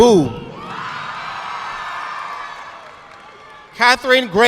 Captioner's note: audience clapping